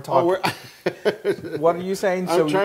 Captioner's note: laugh